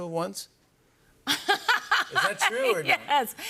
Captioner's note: laughs